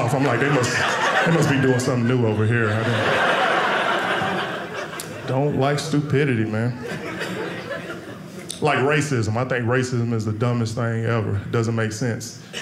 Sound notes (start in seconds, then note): 2.9 audience laughing; 6.6 audience laughing